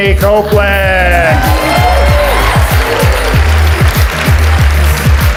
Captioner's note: audience applauds